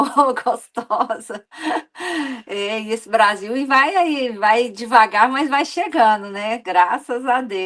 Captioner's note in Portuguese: risadas; suspirando